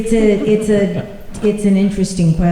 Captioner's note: laughter